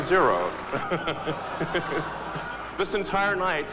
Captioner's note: Elon laughs